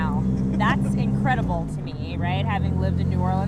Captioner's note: laughing